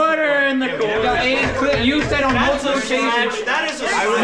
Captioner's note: jury complaining